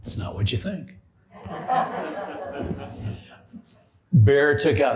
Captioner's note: laughter